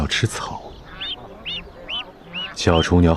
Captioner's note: chicks chirping